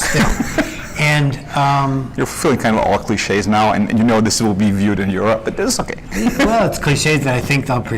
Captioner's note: laughs